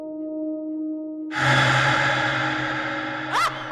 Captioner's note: rattle echoes; female entity laughs evilly